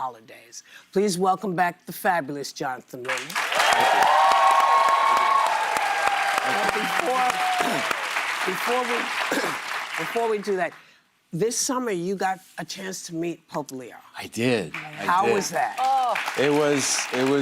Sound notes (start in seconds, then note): 8.6 applause